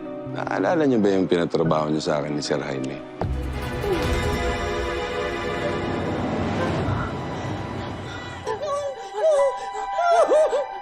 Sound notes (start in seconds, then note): 3.7 cristine groans weakly; 6.0 mercedes breathes heavily; 8.2 baby crying